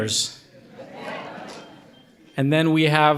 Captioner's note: audience laughing